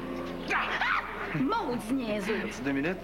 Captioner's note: Cri